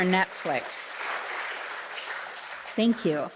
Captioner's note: audience applauding